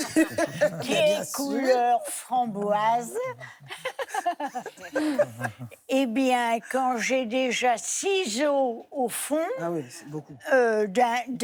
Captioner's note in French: rires